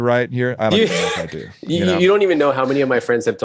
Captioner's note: laughing